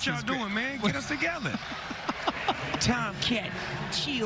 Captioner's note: laughter